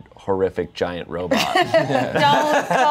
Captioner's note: everyone laughs